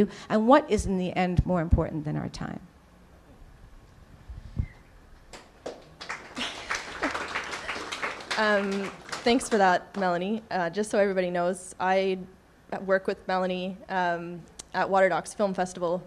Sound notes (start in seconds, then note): 5.3 applause